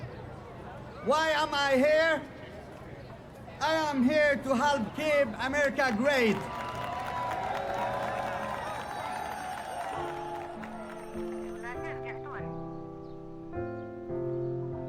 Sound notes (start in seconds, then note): 5.6 cheering and applause